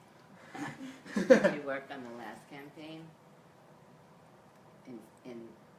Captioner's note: laughs